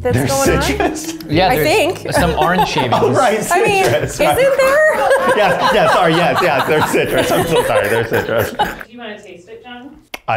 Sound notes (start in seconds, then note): 5.7 laughs